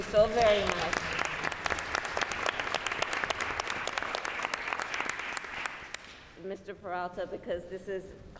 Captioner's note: applause